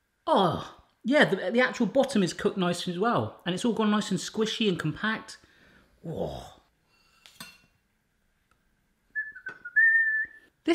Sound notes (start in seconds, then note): 6.1 growling; 9.1 whistling